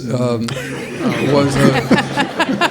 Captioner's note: all laughing